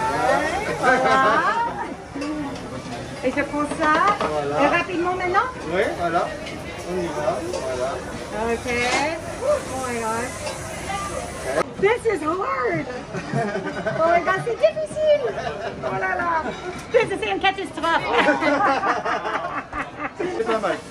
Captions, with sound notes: (speaking foreign language) Okay. Oh my gosh. This is hard. (laughing) (speaking foreign language) (laughing)